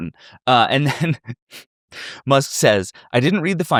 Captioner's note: chuckles